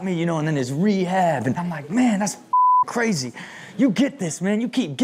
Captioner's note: beep